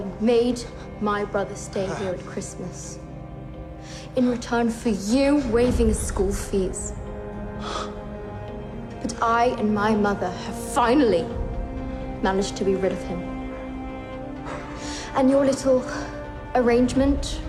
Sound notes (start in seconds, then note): 3.8 gasps